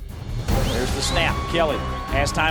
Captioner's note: voiceover